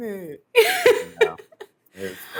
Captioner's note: laughs